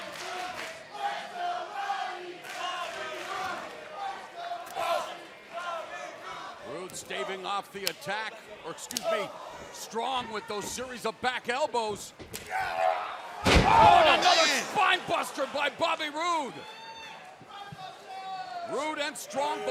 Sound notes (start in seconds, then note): 2.3 fans chanting